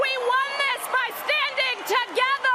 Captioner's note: cheers and applause